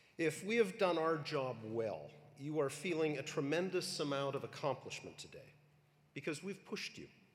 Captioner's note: none